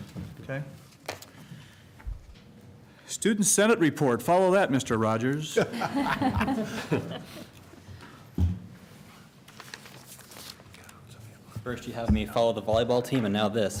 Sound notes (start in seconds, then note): 5.5 laughter